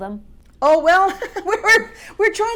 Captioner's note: Amy laughs